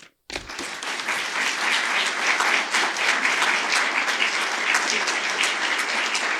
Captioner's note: applause